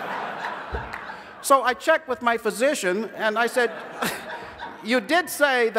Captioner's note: laughter